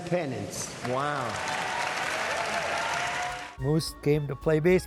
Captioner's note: applause